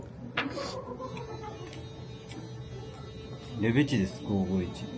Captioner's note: bzzzt